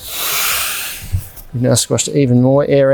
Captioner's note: air blowing out of mat